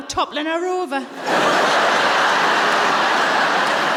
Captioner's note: laughter